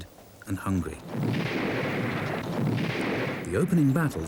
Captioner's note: cannon blasts